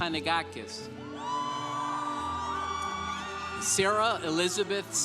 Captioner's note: congregation applauding